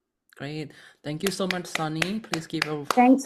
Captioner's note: claps